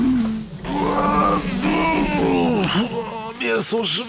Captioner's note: loud groan